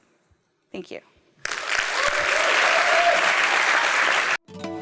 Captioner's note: applause